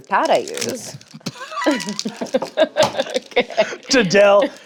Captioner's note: laughing